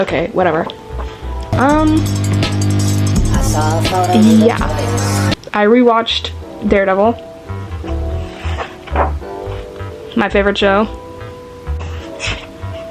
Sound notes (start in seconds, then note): 0.0 breathy voice; 1.5 tiktok playing